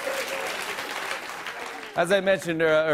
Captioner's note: normal voice